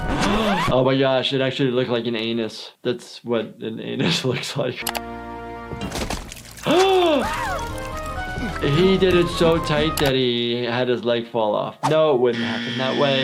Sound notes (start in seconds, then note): 5.8 solemn flute music; 5.8 blood splashing; 6.6 gasping